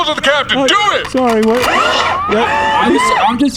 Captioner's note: racks rifle again